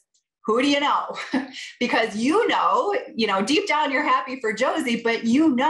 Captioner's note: laughter